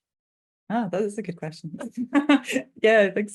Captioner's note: chuckling